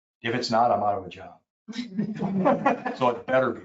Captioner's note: people chuckle